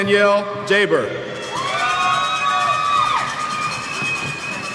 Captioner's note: cheers